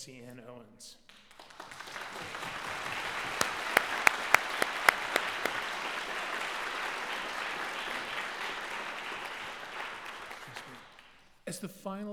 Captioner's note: applause